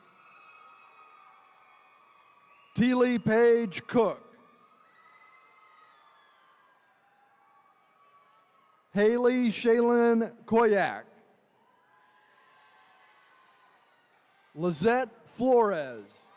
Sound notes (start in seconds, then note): 0.2 attendees cheering; 4.5 attendees cheering; 11.6 attendees cheering